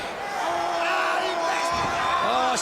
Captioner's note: crowd chatter